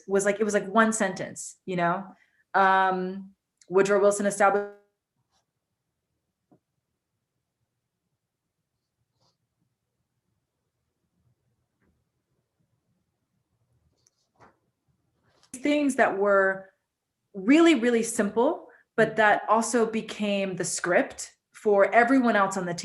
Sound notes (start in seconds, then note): 8.3 audio cuts out